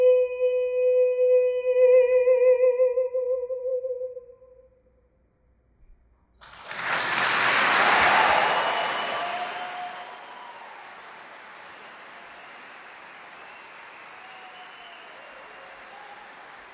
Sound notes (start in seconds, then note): 6.4 crowd cheering; 6.4 crowd clapping